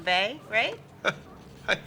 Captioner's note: chuckles